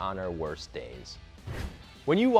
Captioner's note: swooshing